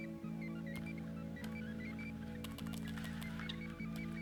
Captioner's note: typing